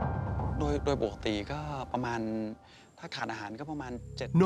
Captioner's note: speaking Thai